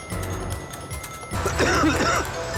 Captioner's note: coughs; dramatic music